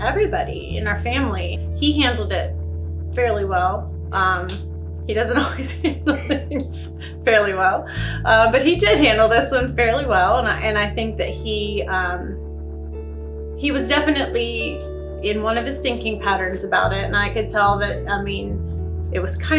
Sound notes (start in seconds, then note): 8.1 laughs